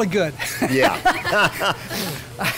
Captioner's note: both laugh; laughs